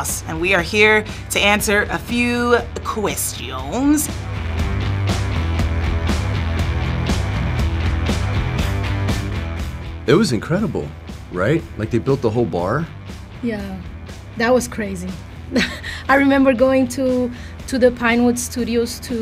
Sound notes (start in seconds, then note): 4.5 upbeat rock music; 15.5 laughs